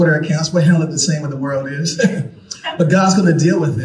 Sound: chuckles

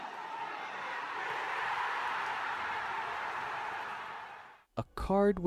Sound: the crowd celebrates

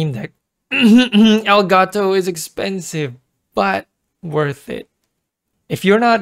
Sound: cough

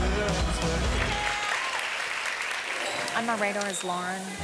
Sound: ladies applaud

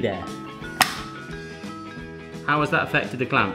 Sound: snap

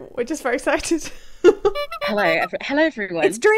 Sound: clown horn

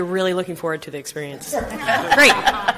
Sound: group laughing

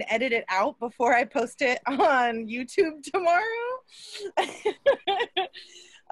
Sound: laughs

